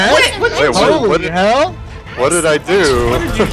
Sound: background oohing

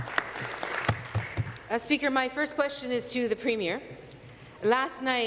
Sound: applause

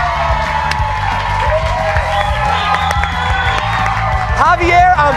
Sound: cheers and applause

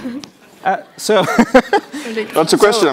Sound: chuckles

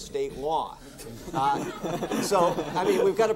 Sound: all laughing

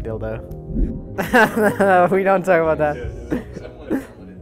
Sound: nervous laughter

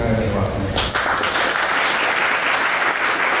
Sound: applause

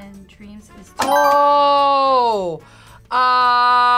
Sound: buzzer rings

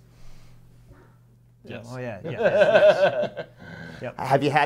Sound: laughs

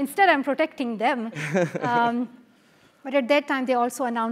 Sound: laugh

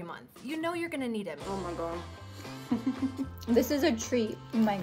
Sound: chuckles

